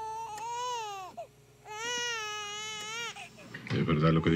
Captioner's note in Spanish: Llanto de bebé